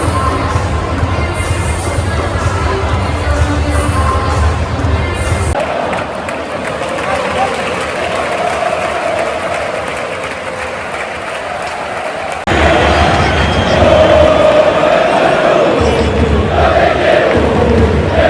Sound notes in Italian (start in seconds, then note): 5.5 Applauso